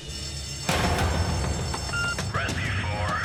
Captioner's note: alarm ringing